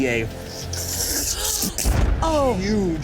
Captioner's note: gasps